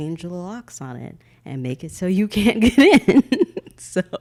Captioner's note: laughing